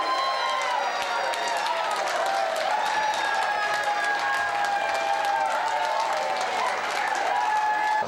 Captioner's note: boisterous cheering